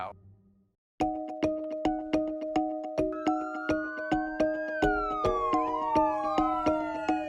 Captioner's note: dramatic music; siren wailing